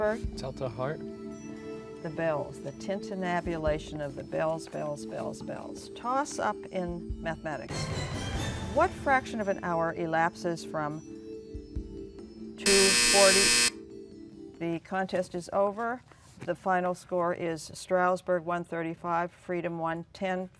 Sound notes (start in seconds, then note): 11.0 buzzer